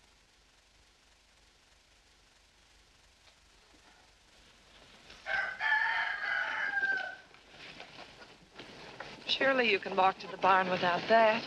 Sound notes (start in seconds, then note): 5.2 rooster Crows